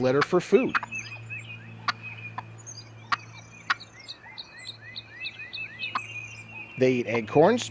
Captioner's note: turkey sound